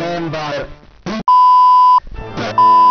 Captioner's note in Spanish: beep